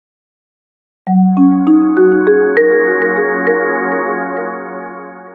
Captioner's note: gently chiming bells